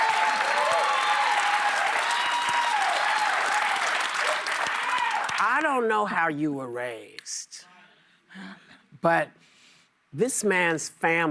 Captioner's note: applause